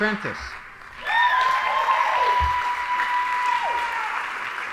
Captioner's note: audience applauding